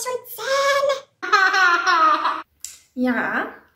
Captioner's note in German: Kleinkind lacht